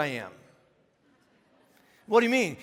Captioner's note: congregation laughing